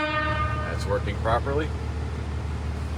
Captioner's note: horn honking